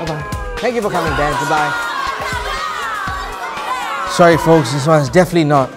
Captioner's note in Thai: เสียงโห่